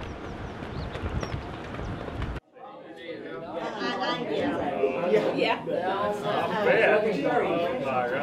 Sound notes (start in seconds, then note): 2.4 crowd chatter